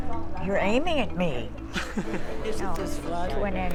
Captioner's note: man chuckles